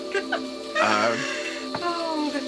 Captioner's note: giggling